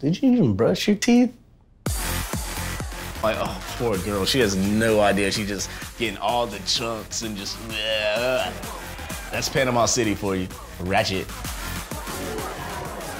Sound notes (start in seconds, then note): 7.5 sneers